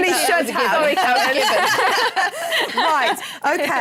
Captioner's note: laughs